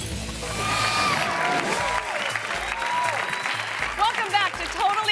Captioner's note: audience applauding and cheering